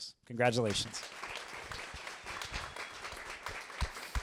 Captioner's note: applause